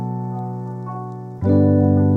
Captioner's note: none